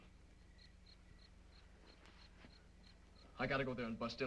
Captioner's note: insects chirping